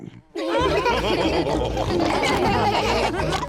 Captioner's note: chuckles; all laughing